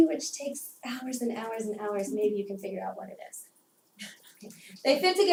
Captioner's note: laugh